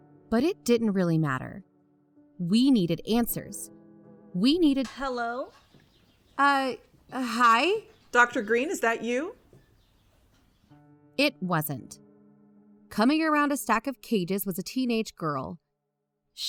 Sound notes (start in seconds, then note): 5.1 music stops abruptly, back to barn ambience. Distantish; 6.7 calling; 9.4 ambience fades and music comes back in